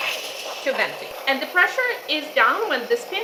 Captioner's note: steam hissing